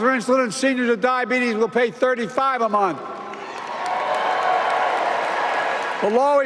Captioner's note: applause